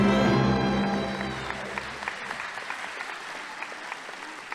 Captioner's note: audience applauding